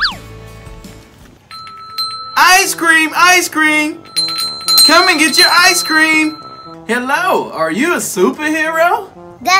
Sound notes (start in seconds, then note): 1.5 bell ringing